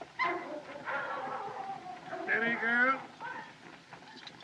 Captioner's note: dogs Barking